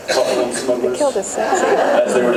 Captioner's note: laughs